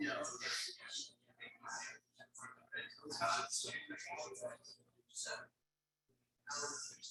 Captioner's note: people chattering indistinctly continues